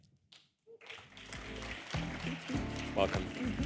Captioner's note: applause